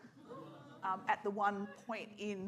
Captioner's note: scattered laughter